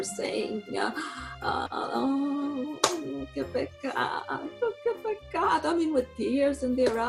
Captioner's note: in Italian